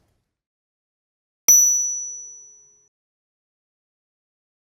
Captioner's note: bell dinging